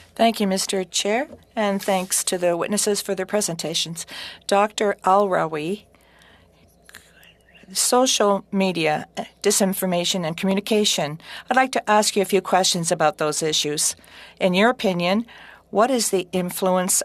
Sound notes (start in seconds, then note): 4.1 speaking french